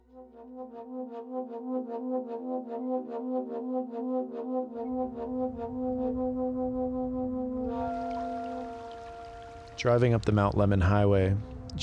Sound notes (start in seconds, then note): 1.4 loud horn music begins; 7.6 water flowing